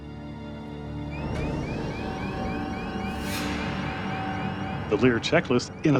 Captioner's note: dramatic music; alarm sounding